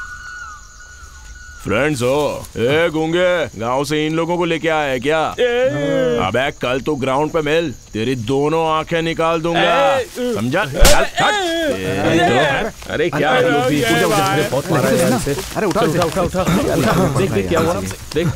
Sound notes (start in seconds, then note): 13.6 cracker Noise